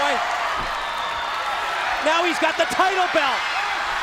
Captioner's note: crowd cheering